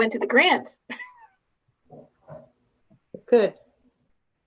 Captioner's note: laughing